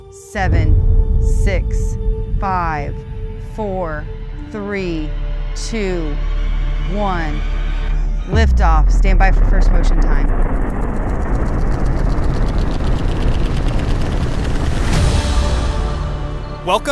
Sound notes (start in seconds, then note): 10.2 engines roaring; 15.0 dramatic music continues